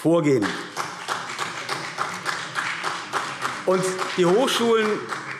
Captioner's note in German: Beifall CDU und BÜNDNIS 90/DIE GRÜNEN